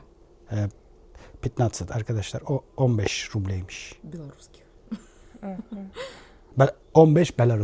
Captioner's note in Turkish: kahkaha